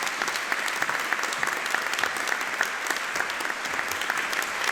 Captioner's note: audience applauding